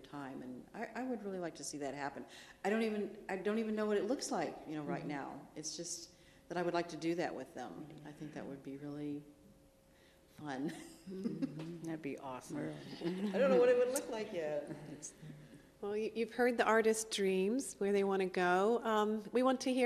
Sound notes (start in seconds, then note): 16.1 laughs